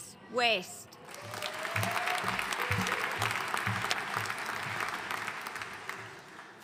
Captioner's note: audience cheering and applauding